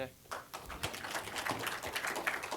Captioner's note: applause